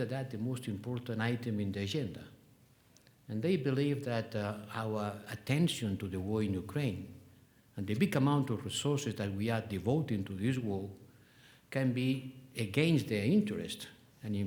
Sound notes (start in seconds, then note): none